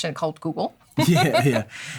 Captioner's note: laughter